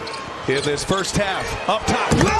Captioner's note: crowd noise; cheers and applause